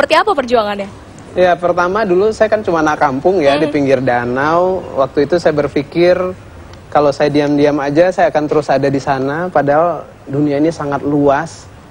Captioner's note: non-english speech